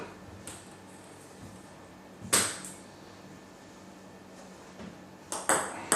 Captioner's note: balls ping pong hitting continues